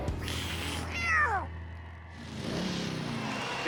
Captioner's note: meow